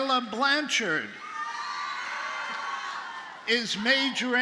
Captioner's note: audience cheers and applauds